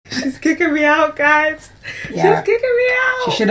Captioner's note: laughs